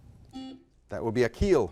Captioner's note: buzzer blaring